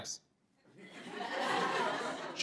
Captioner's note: laughter